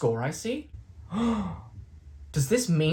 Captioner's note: gasp